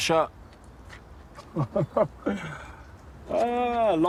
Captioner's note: he chuckles